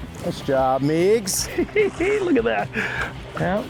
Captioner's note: laughs